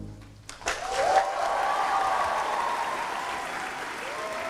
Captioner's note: applause